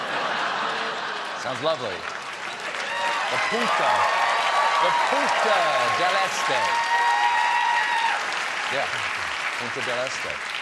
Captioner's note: laughter; applause